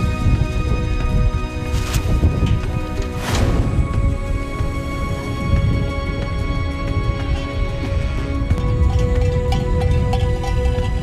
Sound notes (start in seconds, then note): 3.3 wind